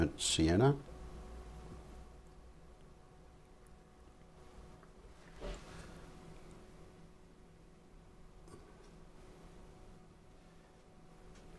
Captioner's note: silence